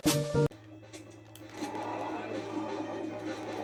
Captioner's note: mission music and zombie cries; greeting sounds; music and hits